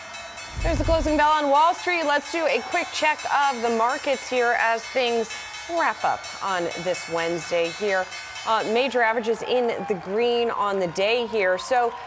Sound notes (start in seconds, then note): 3.0 bell